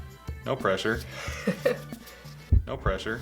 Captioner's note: laughs